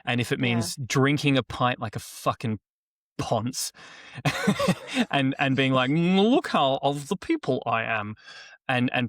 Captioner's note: laughter